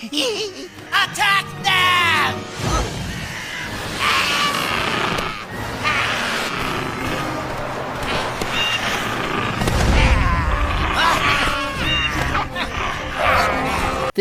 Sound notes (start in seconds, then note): 0.0 snickers; 2.7 battle cries from vultures and hyenas